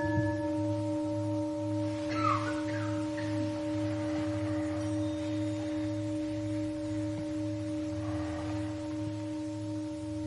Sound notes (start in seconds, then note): 2.1 coughing; 5.9 water falling